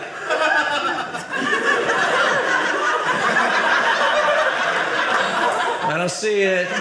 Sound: audience laughing

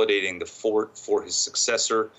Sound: speaking French

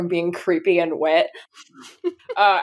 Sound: laughs

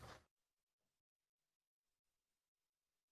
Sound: silence

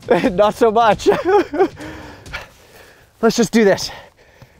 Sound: laughing

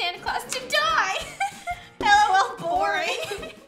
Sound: laughs

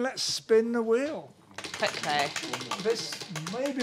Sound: wheel clacking

